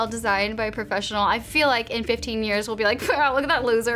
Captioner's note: scoffs